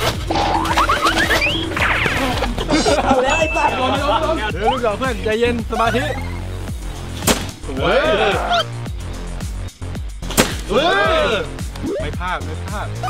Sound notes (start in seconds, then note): 0.6 laughs; 7.2 blows; 10.3 blows